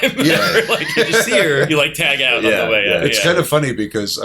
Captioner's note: laughter